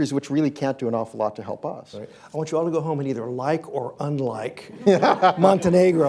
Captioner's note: laughter